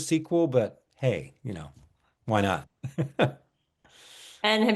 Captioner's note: laughs